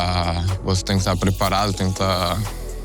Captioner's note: none